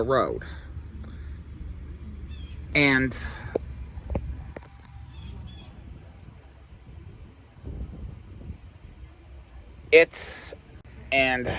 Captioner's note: stammering